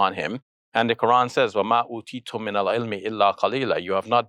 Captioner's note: speaking in foreign language